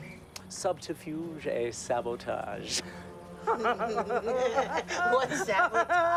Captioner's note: laughing